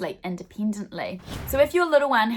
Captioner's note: swooshing